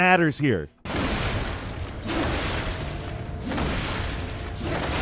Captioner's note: dramatic chopping